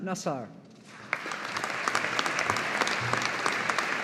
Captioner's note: audience applauding